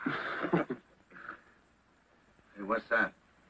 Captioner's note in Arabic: يضحك الجميع